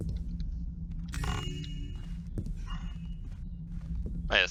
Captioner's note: joyous chime